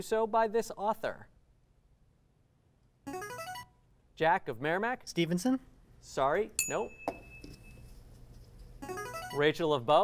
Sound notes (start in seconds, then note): 3.0 ringing; 6.6 ding; 8.6 ringing